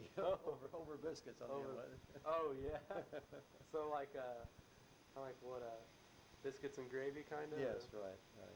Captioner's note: both chuckle